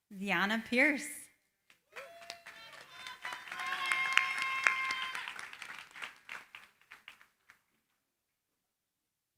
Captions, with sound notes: Diana Pierce. [APPLAUSE]